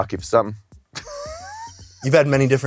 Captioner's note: dry laughing